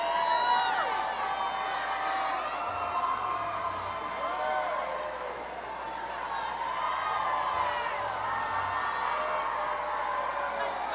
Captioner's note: cheers and applause